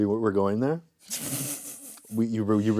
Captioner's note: Ian snickers